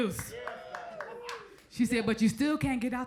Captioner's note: crowd member applauds